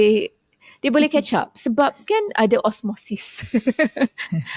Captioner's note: laughs